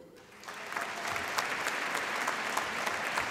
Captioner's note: applause